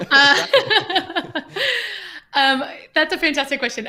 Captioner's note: laughter